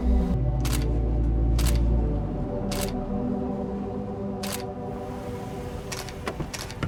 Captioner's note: suspenseful music continues; camera clicking